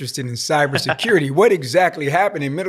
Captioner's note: laughs